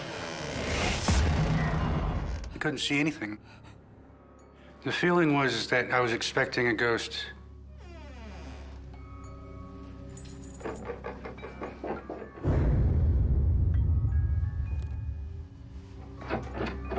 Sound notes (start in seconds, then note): 0.0 creaking; 7.8 creaking; 10.0 eerie; 11.6 scraping; 13.8 eerie; 16.7 scraping & jangling